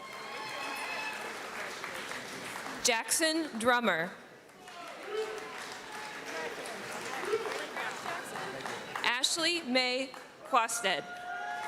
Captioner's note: applause